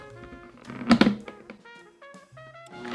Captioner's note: click